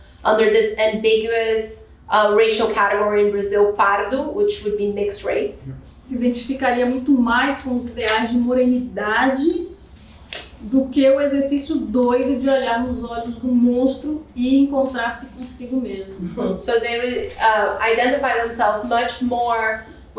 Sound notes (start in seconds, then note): 6.5 speaking portuguese